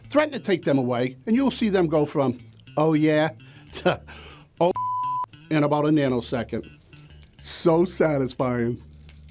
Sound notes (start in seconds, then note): 4.7 beep; 8.7 keys jingle